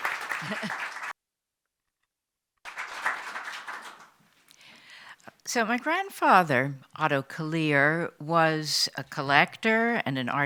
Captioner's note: applause